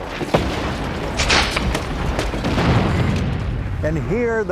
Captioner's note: guns cracking and thundering